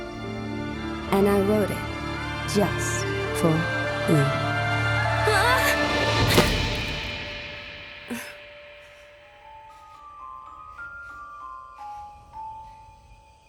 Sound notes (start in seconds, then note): 5.2 scream; 6.2 thud